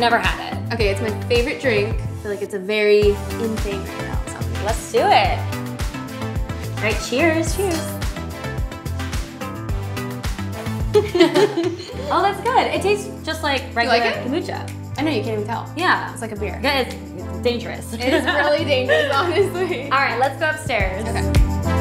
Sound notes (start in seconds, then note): 7.5 glasses clink; 10.9 both laugh; 18.0 laughs; 18.8 chuckles; 21.5 pop music